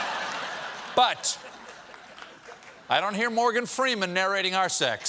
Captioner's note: laughter